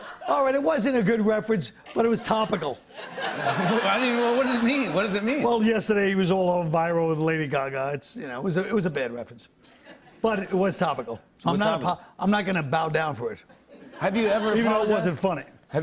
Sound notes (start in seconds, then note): 1.9 laughter